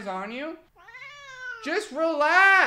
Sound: meows

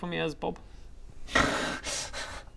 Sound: low IQ noises

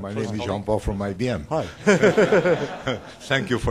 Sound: laughter

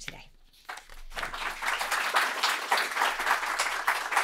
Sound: applause

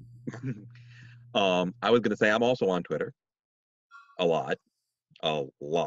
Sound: laughs

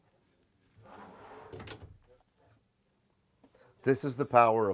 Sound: drawer closing

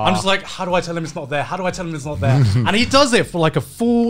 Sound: laughing

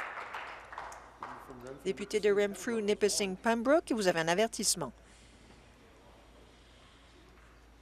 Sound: applause

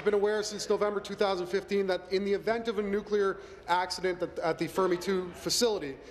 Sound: applause

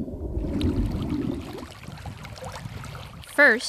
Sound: water flowing

